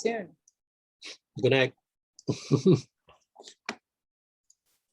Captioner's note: chuckles